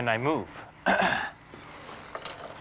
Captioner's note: clears thrt